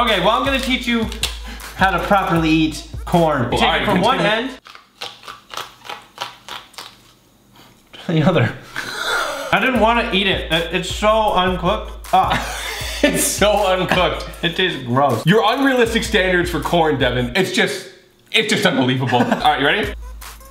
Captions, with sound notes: - OK, well I'm gonna teach you how to properly eat corn. Take it from one end (crunching) to the other. I didn't want to eat it. It's so uncooked. - It's so uncooked. - It tastes gross. - Your unrealistic standards for corn, Devan. It's just, it's just unbelievable. All right, you ready?